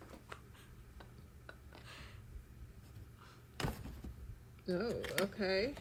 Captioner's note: laughs